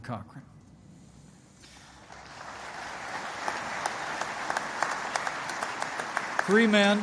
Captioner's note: applause